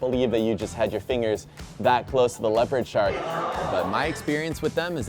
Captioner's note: crowd gasps